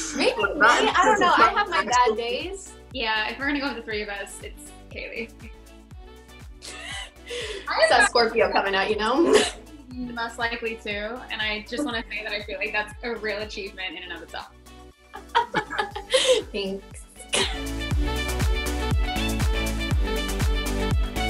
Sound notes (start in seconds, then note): 15.1 Kaylee laughing; 18.6 upbeat music